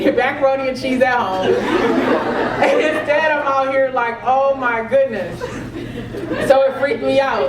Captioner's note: laugh